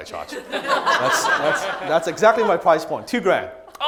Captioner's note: crowd laughs